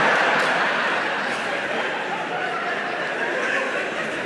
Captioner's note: audience laughing